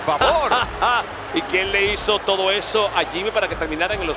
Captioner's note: laugh